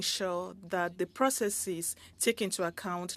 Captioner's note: speaking French